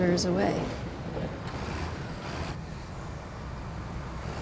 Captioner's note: engine revving